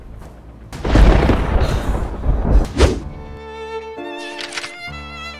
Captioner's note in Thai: ฟ้าผ่า